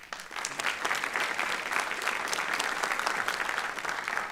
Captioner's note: applause